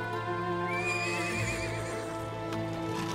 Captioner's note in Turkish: At kişneme sesi; Müzik - Duygusal